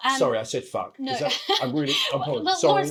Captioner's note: awkward laugh